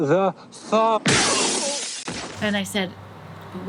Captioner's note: loud crashing